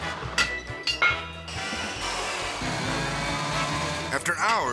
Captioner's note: whimsical music; saw buzzing